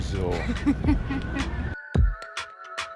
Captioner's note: laughter